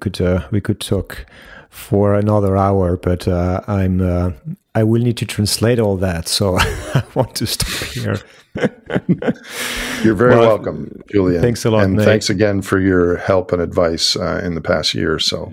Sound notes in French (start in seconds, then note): 9.4 Rires